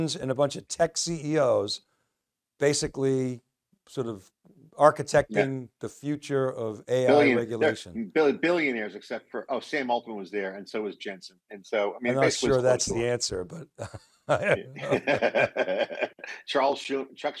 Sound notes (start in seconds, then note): 14.3 laughing